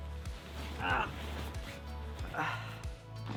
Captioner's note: grunts